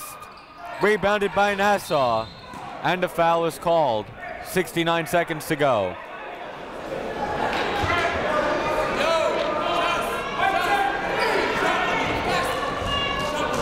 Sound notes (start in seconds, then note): 7.8 coaches yelling; 8.0 crowd talking